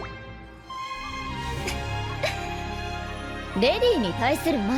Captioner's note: giggles